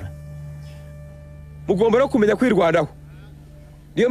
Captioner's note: Kambanda speaking in Rwanda-Rundi